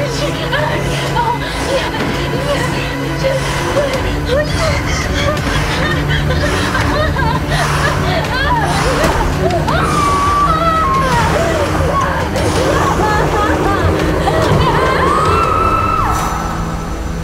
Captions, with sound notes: Jerod, oh my, oh, Jerod, Jerod, Jerod. Oh shit. (crying) (screaming)